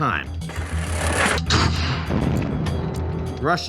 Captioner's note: munitions explode